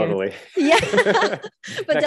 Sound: both laughs

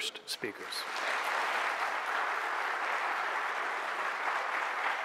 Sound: audience applauding

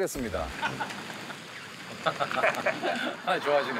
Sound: laughing

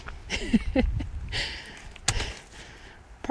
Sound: laughter

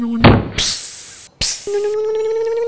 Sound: thud; hiss; electric motor hum

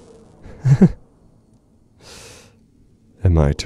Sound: chuckling

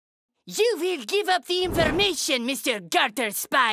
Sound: in French accent

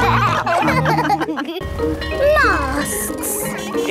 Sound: bell ringing

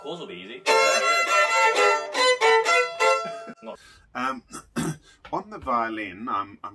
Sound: shrill violin music; man laughs

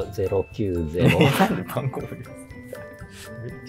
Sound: laughing

